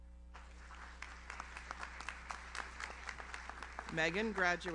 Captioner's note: audience applauds